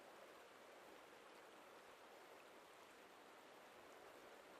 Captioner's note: wind blowing softly